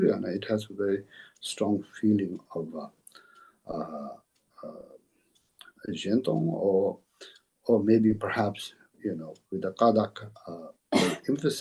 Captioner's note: tibetan